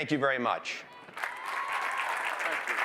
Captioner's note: applause